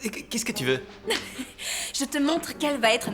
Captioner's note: laughs